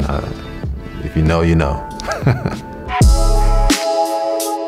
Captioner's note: chuckles; upbeat music